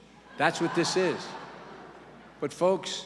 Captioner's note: laughter